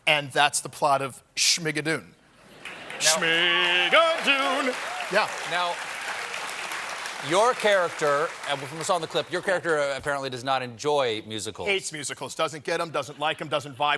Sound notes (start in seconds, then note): 8.6 applause